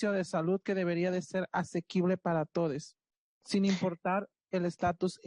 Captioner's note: speaking Spanish